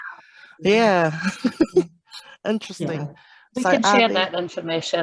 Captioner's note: laughs